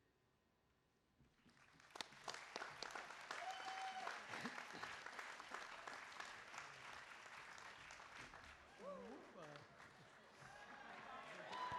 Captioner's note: applause